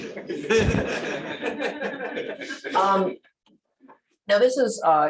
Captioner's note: laughter